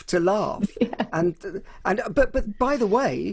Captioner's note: laughing